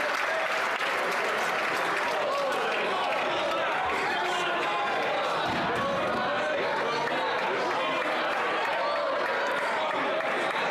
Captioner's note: some Applause